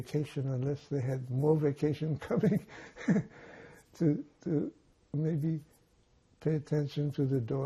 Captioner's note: laughing